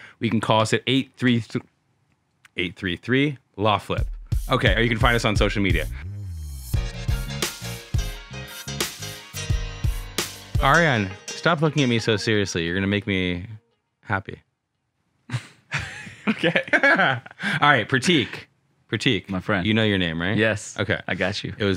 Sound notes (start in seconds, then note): 15.3 chuckles